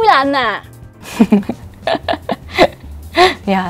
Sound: giggles

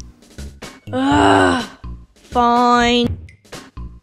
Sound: sigh

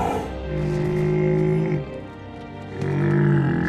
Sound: groans

